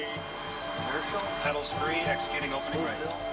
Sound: beeping, radio chatter

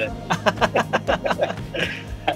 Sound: laughs

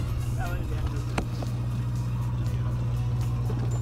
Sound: indistinct chatter

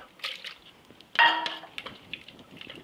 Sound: stock sloshing; cup clinking

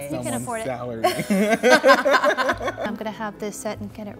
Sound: all laughing

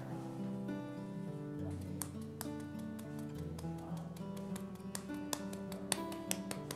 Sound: soft slapping sound

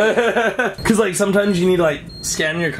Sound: laughing

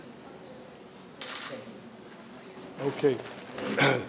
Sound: camera shutter clicks

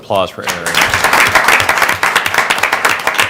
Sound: applause

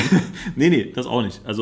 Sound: laughs

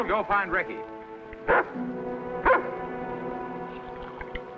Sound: dog barks

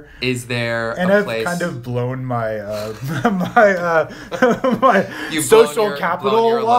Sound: laughs

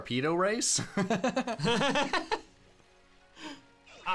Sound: laughter

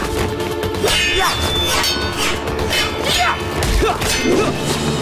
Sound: grunting

